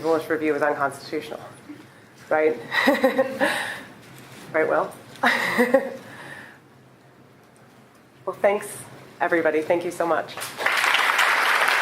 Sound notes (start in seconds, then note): 5.2 laughing